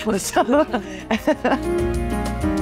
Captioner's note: laughs; bright music